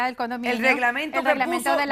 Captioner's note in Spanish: Hablan al unísono